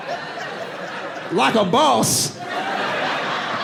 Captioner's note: audience laughing